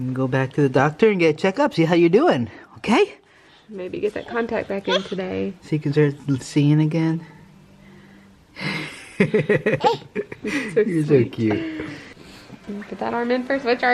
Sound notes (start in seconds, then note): 8.6 laughing